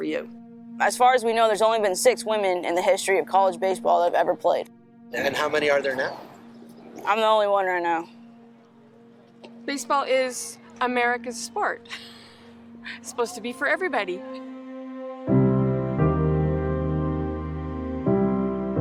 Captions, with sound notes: - As far as we know, there's only been six women in the history of college baseball that have ever played. - And how many are there now? - I'm the only one right now. - Baseball is America's sport. (Chuckles) It's supposed to be for everybody. (introspective piano music)